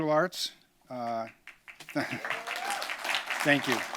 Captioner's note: applause